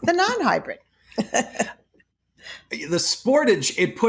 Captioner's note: chuckling